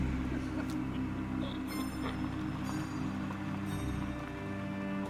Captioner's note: eerie music; car rumbling